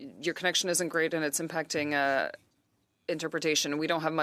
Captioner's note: speaking French